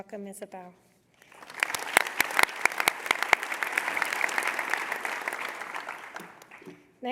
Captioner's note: applause